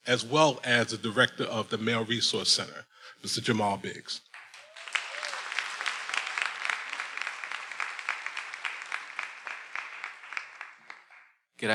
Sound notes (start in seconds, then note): 4.2 everyone applauding; 4.5 attendees cheering